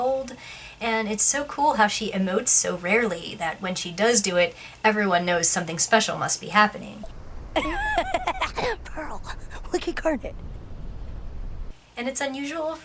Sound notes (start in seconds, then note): 7.0 laughs